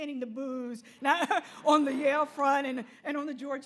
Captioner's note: laughs